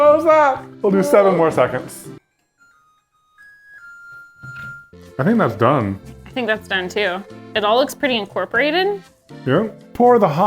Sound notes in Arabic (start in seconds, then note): 2.7 يغني الميكروويف